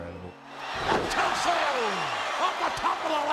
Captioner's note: crowd roaring